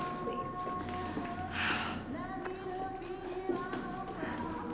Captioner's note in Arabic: بهدوء